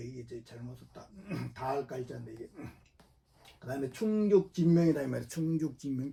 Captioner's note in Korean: 목을 가다듬음